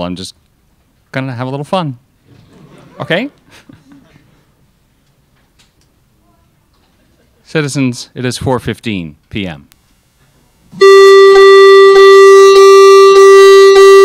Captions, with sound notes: I'm just going to have a little fun. (crowd laughs) Okay? (chuckles) Citizens, it is 4:15 PM. (disturbing music)